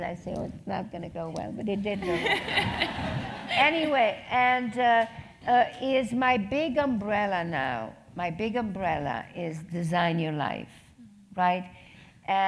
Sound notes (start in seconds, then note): 2.0 laugh